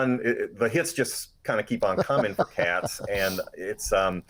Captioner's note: laughing